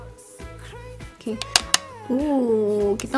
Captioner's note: taps brush